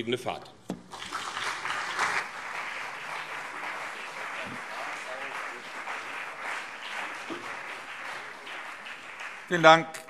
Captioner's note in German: Beifall CDU und BÜNDNIS 90/DIE GRÜNEN